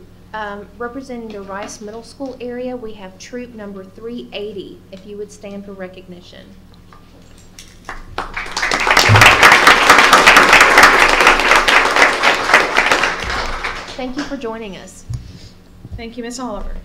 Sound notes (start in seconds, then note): 11.0 applause